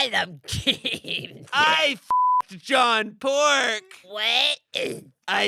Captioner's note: beep